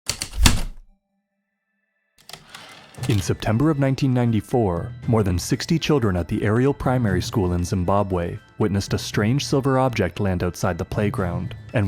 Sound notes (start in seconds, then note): 0.0 typewriter keystrokes, return slide